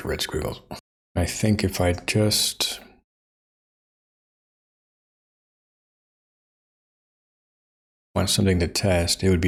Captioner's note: blank Audio